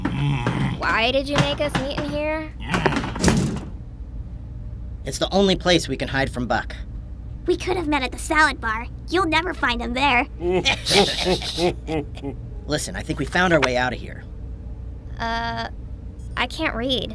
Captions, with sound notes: Why did you make us meet in here? It's the only place we can hide from Buck. We could of met at the salad bar. You'll never find him there! *all snickers* Listen, I think we found our way out of here. Uh.... I can't read.